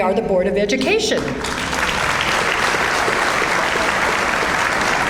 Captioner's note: audience applauds